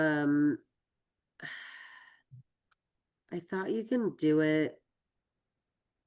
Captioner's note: sighs